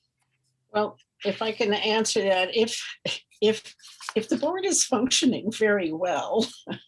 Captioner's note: laughs